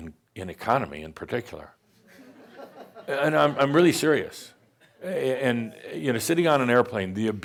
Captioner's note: some chuckles